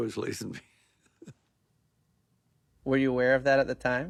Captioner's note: laughing